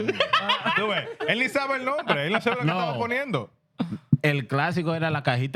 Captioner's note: laughing; speaking Foreign Language